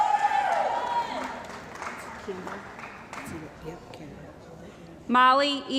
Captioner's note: cheering & Applause